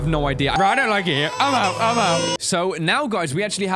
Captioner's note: crybaby sound